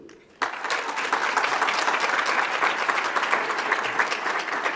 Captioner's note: audience applauds